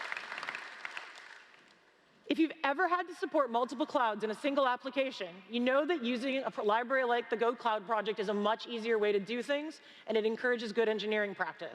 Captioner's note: applause